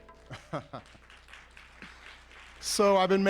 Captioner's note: applause